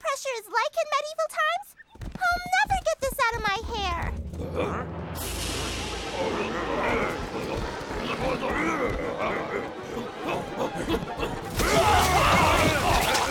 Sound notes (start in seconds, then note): 6.3 muttering; 11.5 screaming